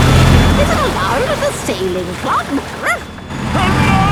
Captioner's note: barks